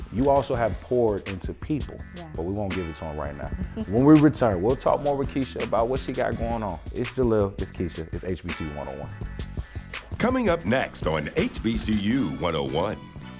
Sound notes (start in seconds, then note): 3.6 laughs; 9.4 hip hop music